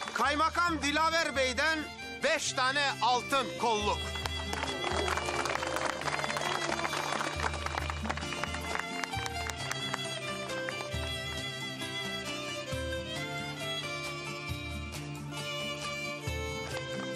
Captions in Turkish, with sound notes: Kayamakam Dilaver Bey'den beş tane altın, kolluk. [Alkışlar.]